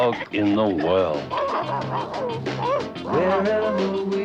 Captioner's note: Arrow barking